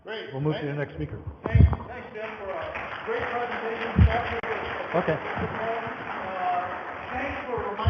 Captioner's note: audience applause